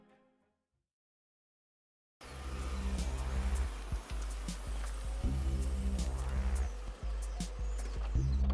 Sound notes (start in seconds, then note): 2.2 motor whirring